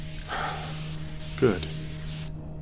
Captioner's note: sigh